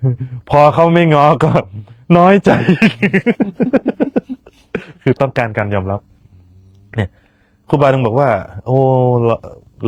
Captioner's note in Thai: เสียงหัวเราะ